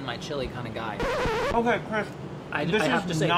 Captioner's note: record scratching